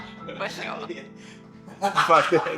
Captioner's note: laughter